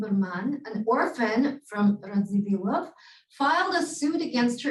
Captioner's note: Hebrew